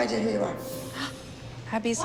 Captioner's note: gasps